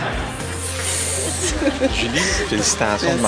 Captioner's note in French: sifflement, rire